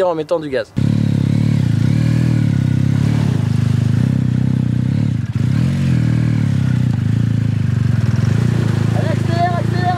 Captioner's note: sound of motor revving